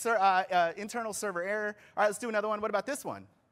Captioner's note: off microphone